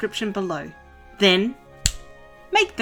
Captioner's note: click